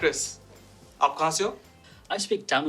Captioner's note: speaking hindi